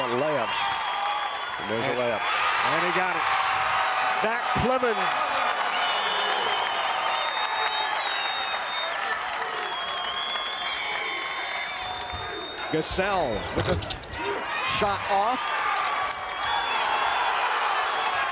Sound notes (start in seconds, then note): 3.5 crowd cheers